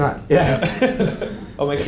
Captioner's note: laughs